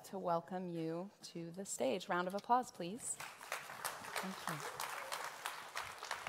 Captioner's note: applause